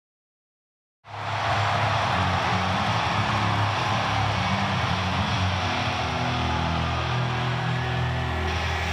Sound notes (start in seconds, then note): 1.0 crowd cheering; 1.4 upbeat rock music